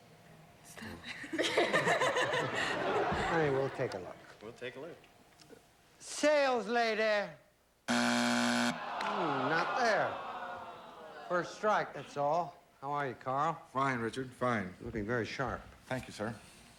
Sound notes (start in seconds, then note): 7.8 buzzer